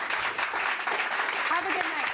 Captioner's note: audience applauding